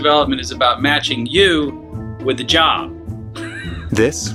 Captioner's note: chuckling